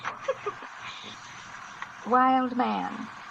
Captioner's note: chuckling